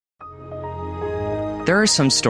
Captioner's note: Windows XP Chime